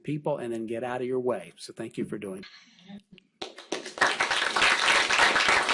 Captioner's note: applause